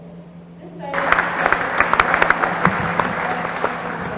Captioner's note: applause